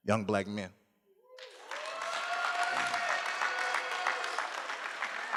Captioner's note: cheering